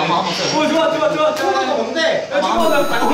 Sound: in his local accent

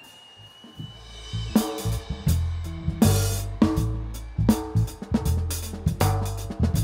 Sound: audience cheering; upbeat jazzy music

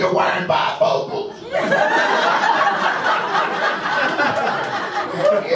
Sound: audience laughs

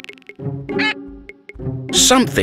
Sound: alarmed

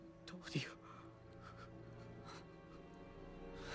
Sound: breathing shallowly

